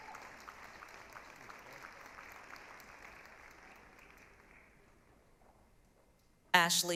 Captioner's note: applause, cheering